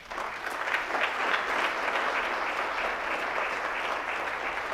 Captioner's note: audience applauds